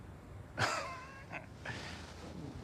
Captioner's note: chuckles